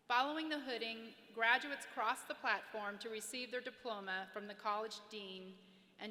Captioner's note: none